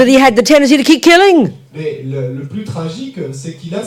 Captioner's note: speaking in French